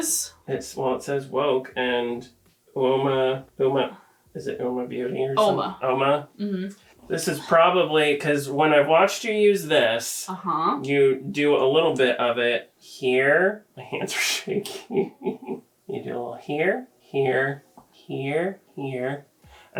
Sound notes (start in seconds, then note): 14.4 laughs